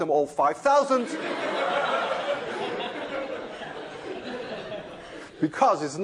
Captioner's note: laughter